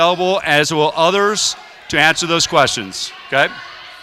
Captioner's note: crowd shouting